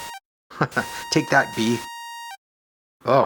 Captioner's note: chuckles